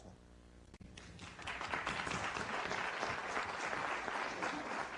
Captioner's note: applause